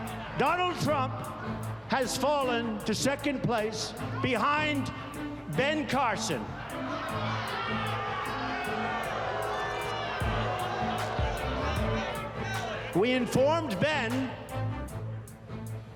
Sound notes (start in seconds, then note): 6.1 crowd booing